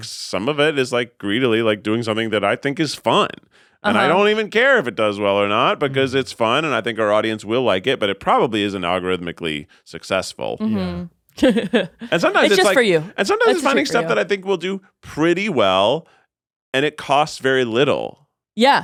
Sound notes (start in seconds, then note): 11.4 chuckles